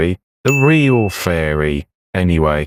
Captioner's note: ding